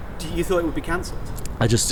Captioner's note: none